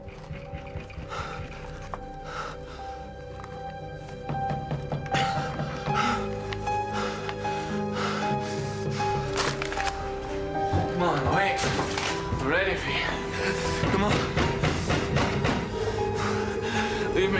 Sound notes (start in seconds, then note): 0.0 knocks; 0.2 breathes heavily; 4.0 knocks; 4.5 breathes heavily; 10.6 paper rustles; 15.3 heavy knocks